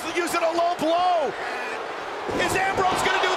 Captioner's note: crowd booing